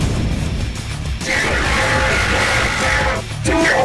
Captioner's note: Virus bots yelling at Jaden To Fight them